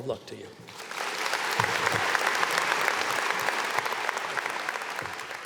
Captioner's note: audience applauds